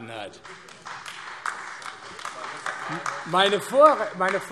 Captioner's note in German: Beifall AfD